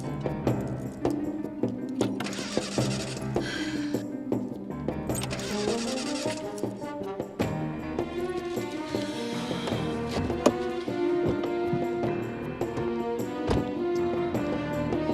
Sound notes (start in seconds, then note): 3.1 sighs